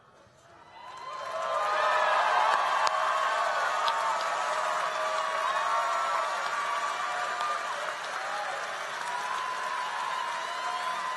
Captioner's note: applause